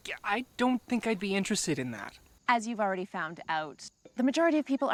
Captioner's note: none